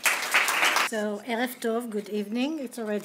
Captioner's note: speaking hebrew